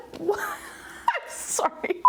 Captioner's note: laughing